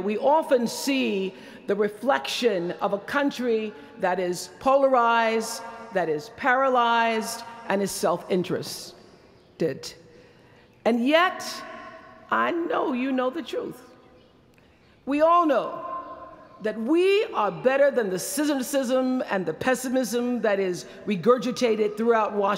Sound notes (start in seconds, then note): none